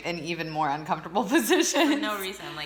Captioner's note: laughs